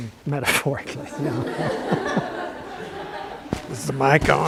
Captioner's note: laughter